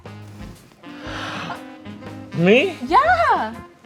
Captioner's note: gasping